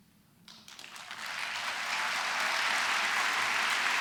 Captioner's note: applause